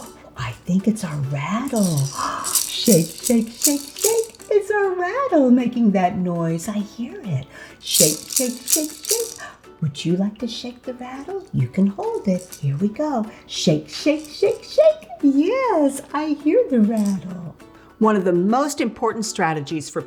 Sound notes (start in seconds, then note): 1.6 rattle rattling; 2.3 gasping; 7.9 rattle rattling